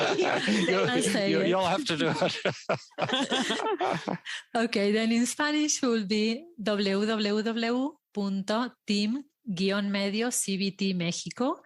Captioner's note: risas